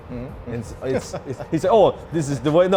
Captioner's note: laughs